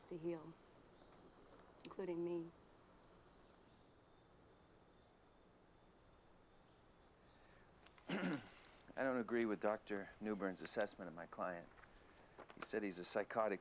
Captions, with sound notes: INCLUDING ME. ( clears throat ) I DON'T AGREE WITH DR. NEWBURN'S ASSESSMENT OF MY CLIENT. HE SAID HE'S A PSYCHOTIC WITH HOMICIDAL TENDENCIES.